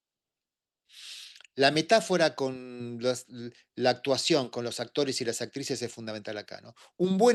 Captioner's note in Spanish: resoplido